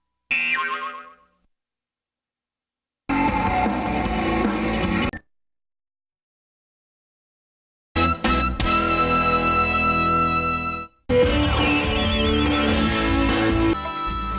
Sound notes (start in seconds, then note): 0.3 boing; 3.1 rock music plays; 5.3 silence; 11.0 music continues playing in music snippets